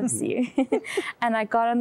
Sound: giggling

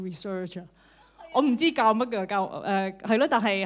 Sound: Cantonese

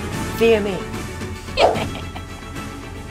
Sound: laughs

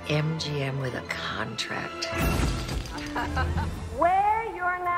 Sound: laughing

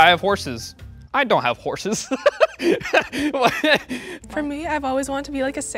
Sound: laughs

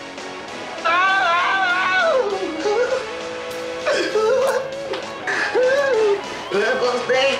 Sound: sobbing

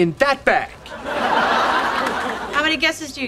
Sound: audience laughing

